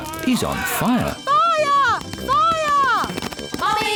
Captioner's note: alarm blares